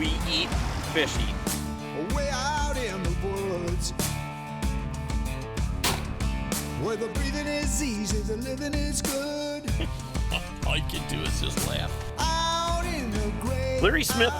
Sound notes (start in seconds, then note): 5.8 gunshot